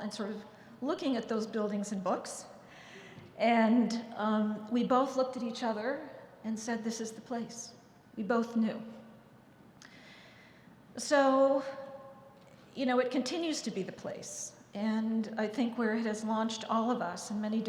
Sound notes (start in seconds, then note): none